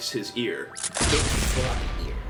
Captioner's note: explosion sound